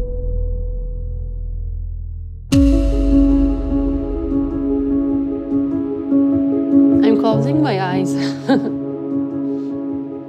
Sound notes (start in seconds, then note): 2.4 dramatic piano music; 8.2 laughs